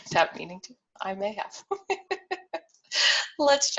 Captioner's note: laughs